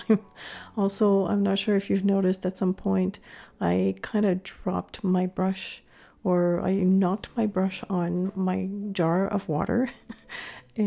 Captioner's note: laughing